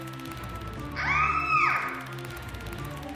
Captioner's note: scream